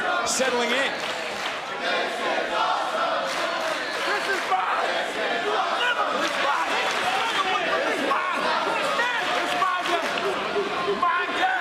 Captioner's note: crowd chants "this is awesome"